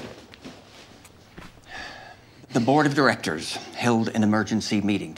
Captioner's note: sighs